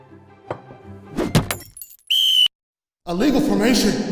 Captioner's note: bright music; glass breaks; ref whistles